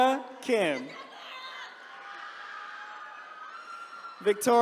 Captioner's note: attendees cheering